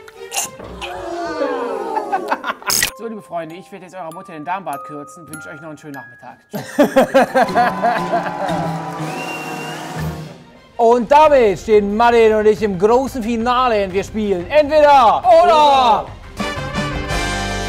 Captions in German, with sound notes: Uh! So, liebe Freunde, ich werd eurer Mutter den Damenbart kürzen. Wünsch euch noch einen schönen Nachmittag. (Lachen) (Unheilvolle Musik) Und damit stehen Mattin und ich im großen Finale. Wir spielen "Entweder Oder"! (Dynamische Musik)